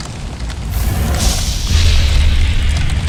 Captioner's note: fire burst and explosion